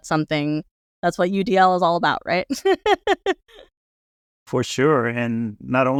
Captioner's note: laughs